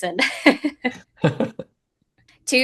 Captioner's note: laughs